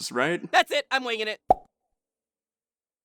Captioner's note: pop